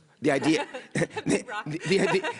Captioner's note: laughs